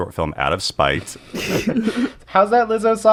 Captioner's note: laughter